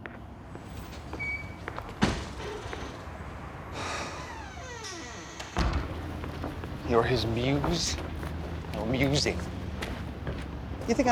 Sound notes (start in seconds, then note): 3.7 sighs; 3.7 door creaking, closes